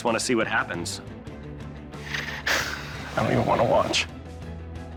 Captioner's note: sighs